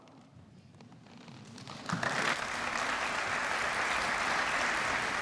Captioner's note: applause